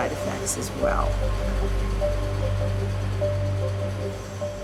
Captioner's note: factory sounds